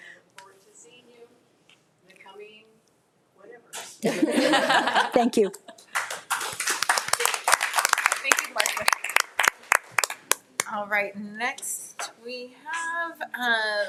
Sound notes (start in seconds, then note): 4.0 people laughing; 5.8 audience applauding